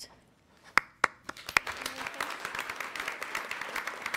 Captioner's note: applause